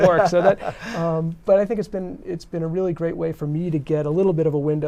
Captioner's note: laughter